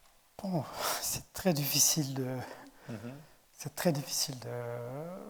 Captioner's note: speaking in French